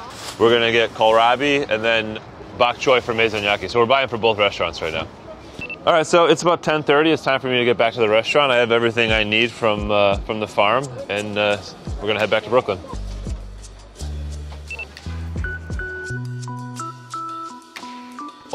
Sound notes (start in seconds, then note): 15.4 timer beeping; 15.5 chill music